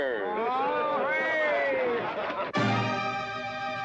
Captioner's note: crowd cheering; tense, dramatic music